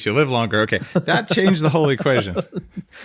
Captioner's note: laughs